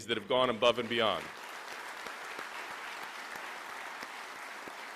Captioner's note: applause